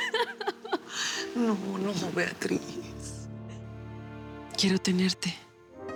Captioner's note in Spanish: Sollozos